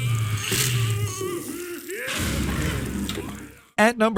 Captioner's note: Headcrab hisses